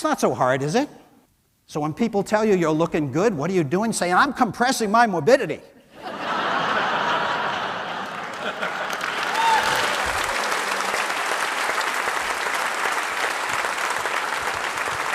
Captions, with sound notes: That's not so hard, is it? So when people tell you you're looking good, what are you doing? Say, "I'm compressing my morbidity." (audience laughs) (audience cheers)